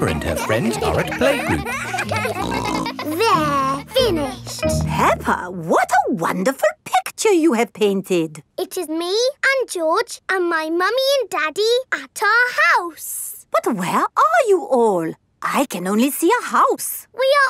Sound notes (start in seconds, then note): 2.1 kids giggling